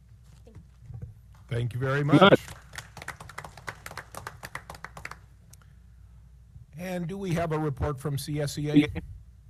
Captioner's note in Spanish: aplausos